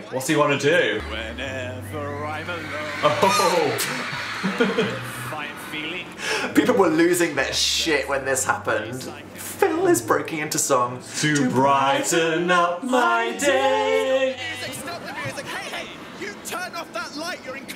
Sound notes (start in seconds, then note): 4.2 Phil laughing